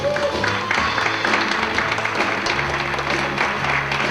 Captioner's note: cheering